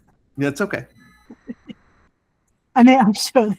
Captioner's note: laughing